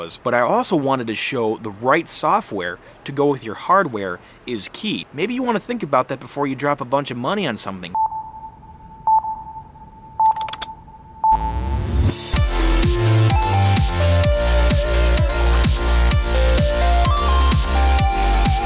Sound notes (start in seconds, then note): 7.9 keyboard clicking; 7.9 rhythmic beeps; 11.4 upbeat techno music